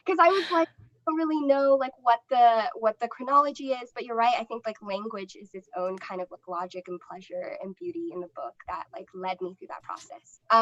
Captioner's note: laughter